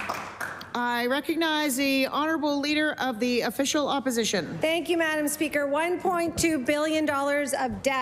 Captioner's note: applause